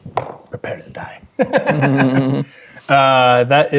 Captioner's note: dice rolling; players laughing